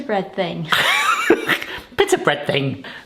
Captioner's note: laughter